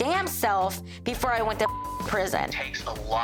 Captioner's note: beep